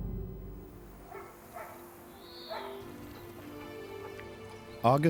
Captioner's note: dog barks